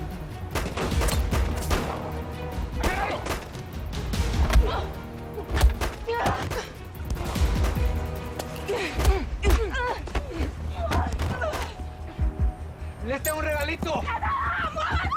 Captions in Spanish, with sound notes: [Disparos] - !AGARRALOS! [Golpes] - !AHI LES TENGO UN REGALITO!